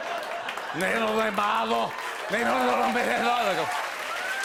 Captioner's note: laughter; speaking Spanish loudly; cheers and applause